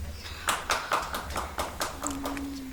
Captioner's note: audience applauds